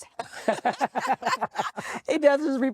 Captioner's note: laughs; chuckles